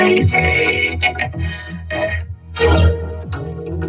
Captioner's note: chuckles